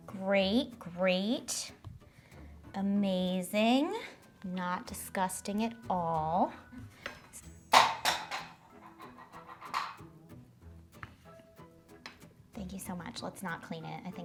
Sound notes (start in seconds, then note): 7.8 cookie cutter clanging